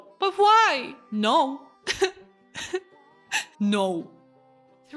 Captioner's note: crying sounds